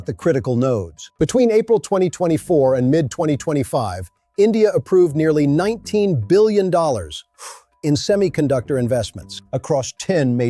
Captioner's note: breath